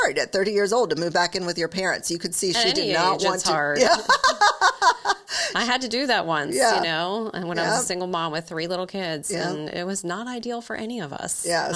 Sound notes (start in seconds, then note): 3.8 laughing